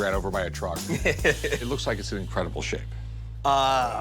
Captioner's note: laughs